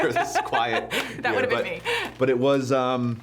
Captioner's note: laughs